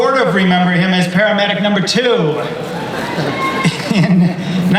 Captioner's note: laughs